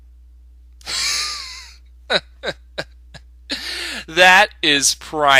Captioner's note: laughter